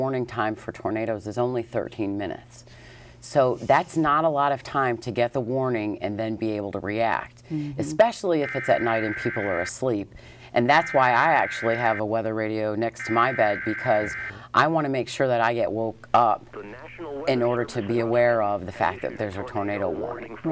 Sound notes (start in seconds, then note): 8.4 weather radio sounding emergency alert